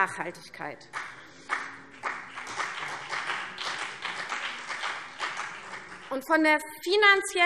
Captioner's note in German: Beifall CDU und vereinzelt BÜNDNIS 90/DIE GRÜNEN